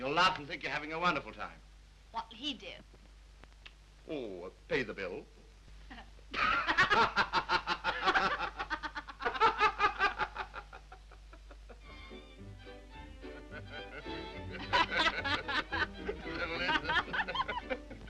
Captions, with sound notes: and you'll laugh and think you're having a wonderful time. - What will he do? - Oh, pay the bill. (Mildred and Harry laugh) (upbeat orchestral music) (Harry and Mildred laugh)